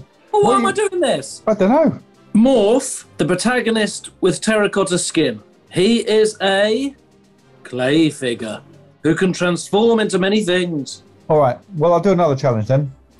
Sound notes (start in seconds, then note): none